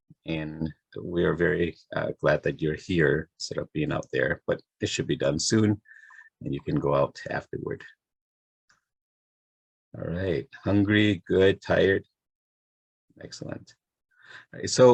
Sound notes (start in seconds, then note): none